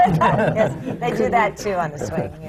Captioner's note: laughter